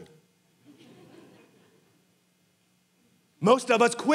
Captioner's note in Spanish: congregantes riendo